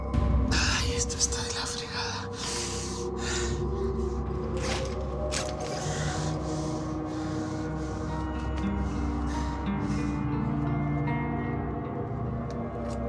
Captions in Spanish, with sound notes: [QUEJIDO] >> ¡AY, ES QUE ESTÁ DE LA FREGADA!